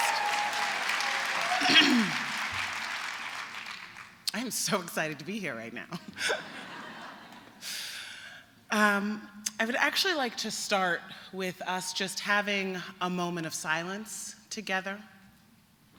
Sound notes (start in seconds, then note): 0.0 applause; 6.0 laughter